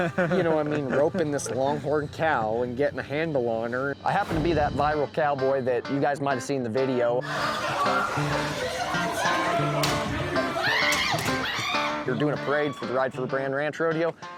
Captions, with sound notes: YOU KNOW, ROPING THIS LONGHORN COW AND GETTING A HANDLE ON HER. I HAPPEN TO BE THAT VIRAL COWBOY THAT YOU GUYS MIGHT'VE SEEN THE VIDEO. [PEOPLE SCREAMING] THEY'RE DOING A PARADE FOR RIDE FOR BRAND RANCH RODEO.